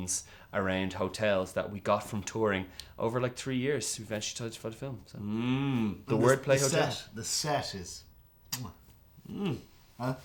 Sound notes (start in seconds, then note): 8.5 beautiful kiss sound effect xx